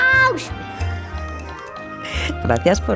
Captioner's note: muffled laugh